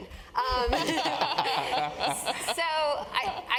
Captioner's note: laugh